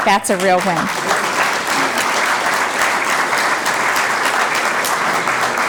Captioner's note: applause